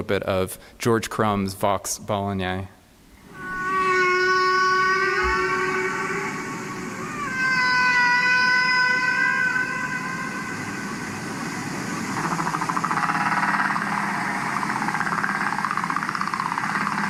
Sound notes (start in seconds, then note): 3.1 whales calling